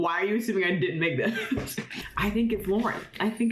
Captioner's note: laughing